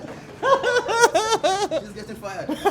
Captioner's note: laughing